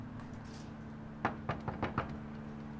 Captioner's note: knock on door